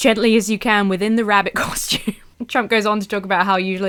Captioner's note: laughs